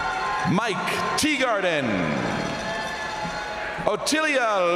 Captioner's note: crowd cheering